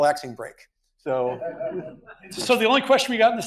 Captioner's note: audience laughs